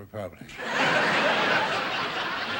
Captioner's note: audience laughing